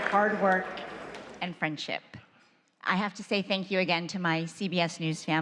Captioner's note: cheers and applause